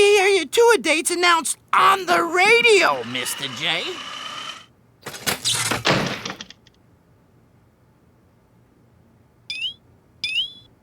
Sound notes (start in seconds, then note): 4.7 wheelchair buzzing